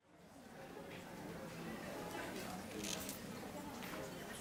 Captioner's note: background talking